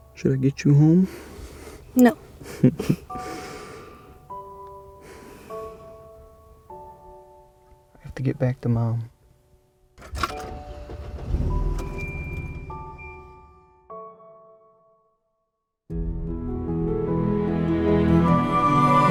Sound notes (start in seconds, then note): 10.0 engine rumbling; 10.0 clanging; 16.0 lively music